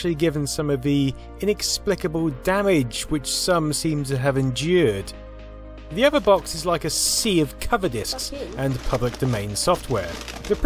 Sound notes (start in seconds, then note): none